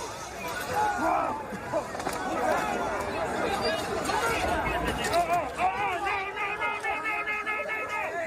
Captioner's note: yelling